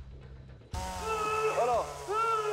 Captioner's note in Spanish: Gritos